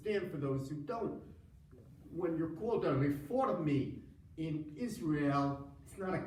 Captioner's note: foreign language